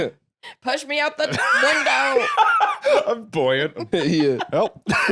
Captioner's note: laughs